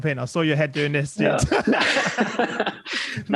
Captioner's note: laughter